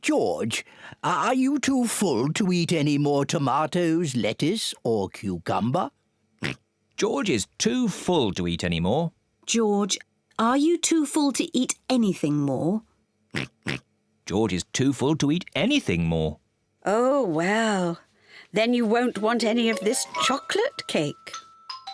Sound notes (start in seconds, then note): 6.4 oinks; 13.3 oinking